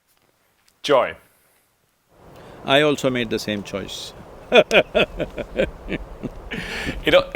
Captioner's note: both laugh